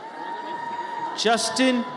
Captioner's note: audience cheers